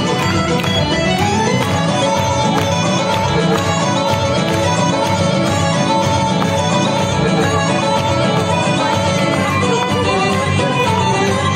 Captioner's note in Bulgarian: аплодисменти